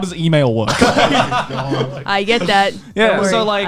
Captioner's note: laughs